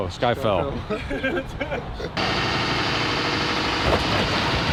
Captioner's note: both chuckling